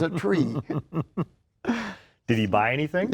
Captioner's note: both laugh